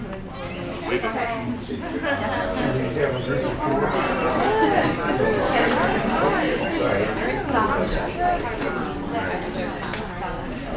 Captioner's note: audience Talking